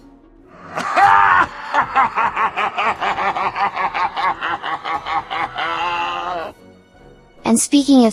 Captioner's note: laugh; evil laugh